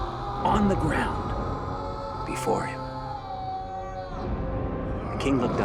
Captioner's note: Nethiah yelling